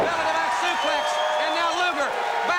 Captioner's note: crowd cheering